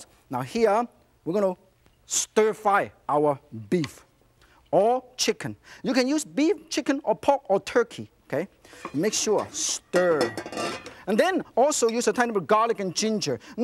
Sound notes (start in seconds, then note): none